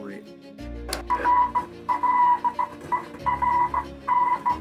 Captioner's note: morse code beeping